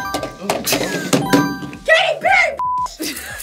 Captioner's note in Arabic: قرعات الجرس; صافرة